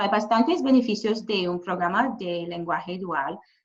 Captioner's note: speaking Spanish